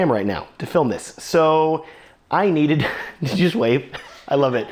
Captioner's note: laughs